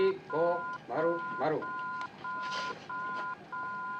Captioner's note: beeping continues